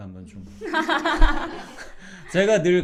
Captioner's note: laughing